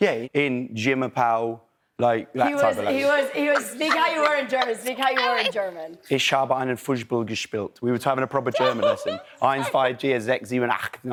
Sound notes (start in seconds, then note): 2.6 laughs; 5.7 speaks german; 9.3 speaks german